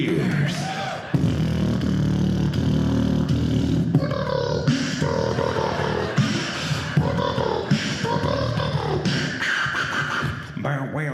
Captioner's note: beat boxing